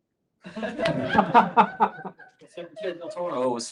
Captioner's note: laughter